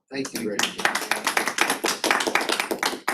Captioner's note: applause